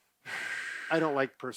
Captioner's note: exhaling